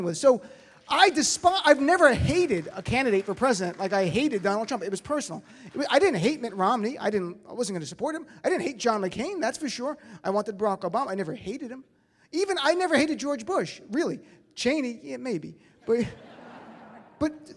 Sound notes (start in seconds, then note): 15.9 audience laughs; 16.0 laughs